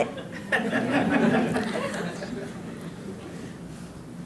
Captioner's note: audience laughing